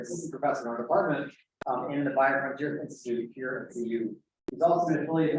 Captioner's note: indiscernible chatter